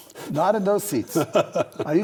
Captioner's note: laughs